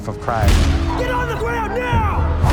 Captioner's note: gunshots